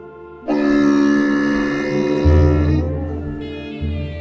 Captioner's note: camel grunts